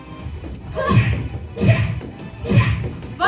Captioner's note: punch SFX